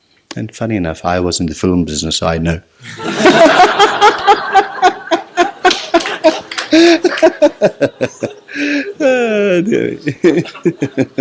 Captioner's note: general laughter